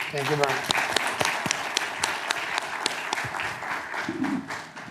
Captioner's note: clapping